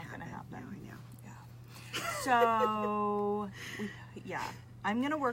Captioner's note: laughs